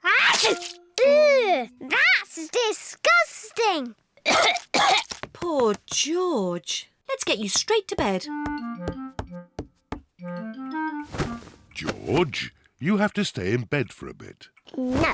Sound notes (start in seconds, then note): 0.2 sneezes; 4.2 coughs